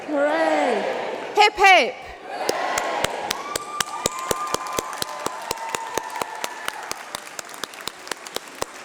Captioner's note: applause